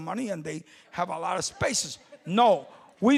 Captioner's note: laughter from audience